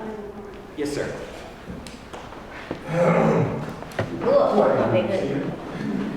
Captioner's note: cough